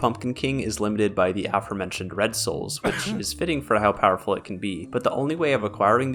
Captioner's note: cough